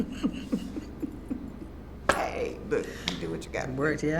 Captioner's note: laughs